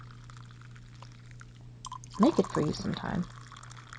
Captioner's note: tea pouring